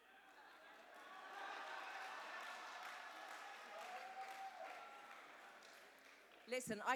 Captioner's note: cheers and applause